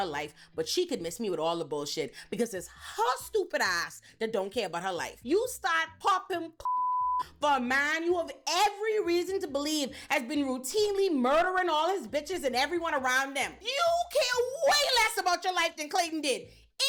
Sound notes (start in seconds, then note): 6.6 beep